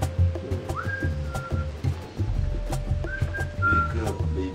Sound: whistling

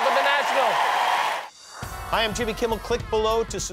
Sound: cheering

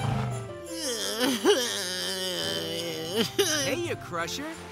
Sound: groaning

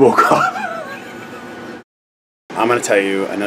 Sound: laughing

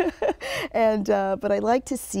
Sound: laughs

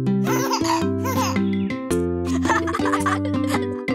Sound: chuckling

